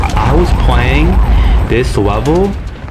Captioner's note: inhales Oxygen